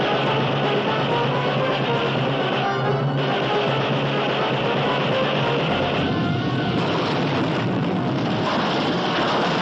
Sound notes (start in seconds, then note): 3.7 explosion